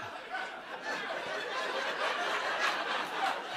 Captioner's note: laughter